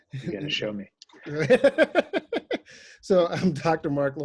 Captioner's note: laughs